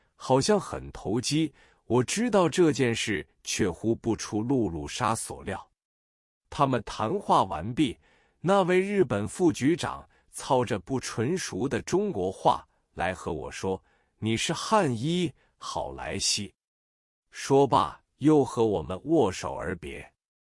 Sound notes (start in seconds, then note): 10.2 speaking in unsophisticated Chinese